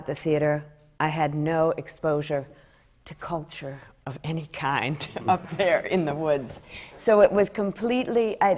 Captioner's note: laughs